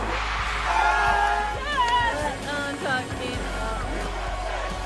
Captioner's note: crowd cheering